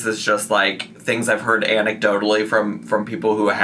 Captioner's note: none